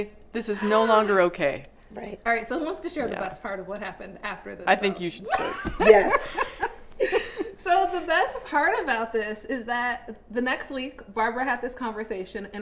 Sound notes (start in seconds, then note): 7.3 all laughing